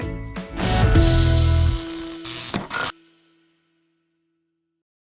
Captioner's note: electricity buzzing